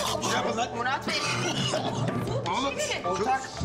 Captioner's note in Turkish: Öksürüyor